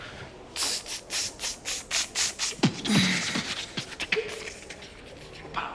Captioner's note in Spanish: Hace beatbox